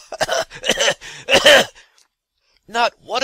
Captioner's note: cough-cough-cough